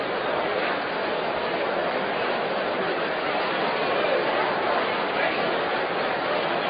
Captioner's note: general chatter